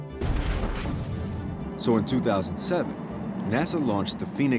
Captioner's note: rocket launching